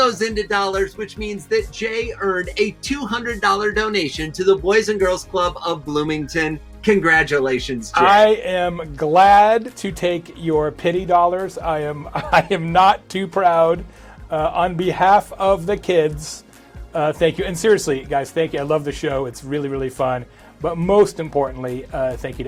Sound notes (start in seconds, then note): 11.9 chuckles